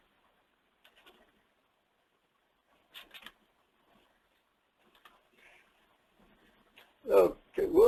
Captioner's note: silence